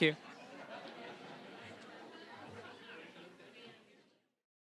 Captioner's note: audience laughing; general chatter